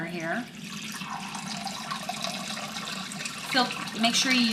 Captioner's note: water gurgling